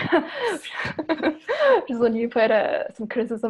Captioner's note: chuckles